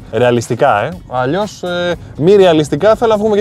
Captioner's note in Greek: none